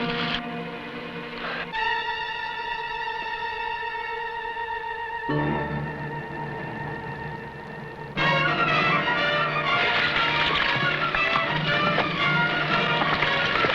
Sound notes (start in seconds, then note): 1.5 dramatic music; 9.8 horse hooves pattering